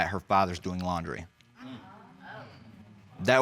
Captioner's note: audience exclaims